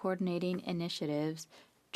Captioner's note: speaking French